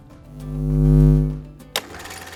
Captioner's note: electricity hums; film reel clicking; upbeat music